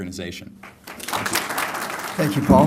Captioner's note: applause